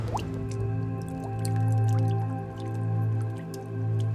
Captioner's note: dripping sounds and low music